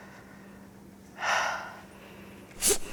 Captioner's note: sigh